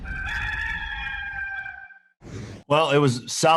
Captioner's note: rooster crowing